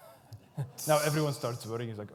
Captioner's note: laughs; audience murmurs